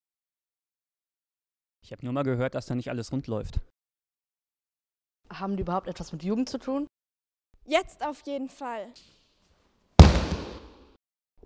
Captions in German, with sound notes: Ich habe nur einmal gehört, dass da nicht alles rund läuft. Haben die überhaupt etwas mit Jugend zu tuen? JETZT auf jeden Fall! *lautes Fallen*